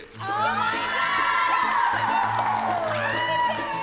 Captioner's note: cheering, whooping